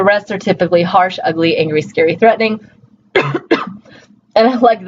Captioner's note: coughs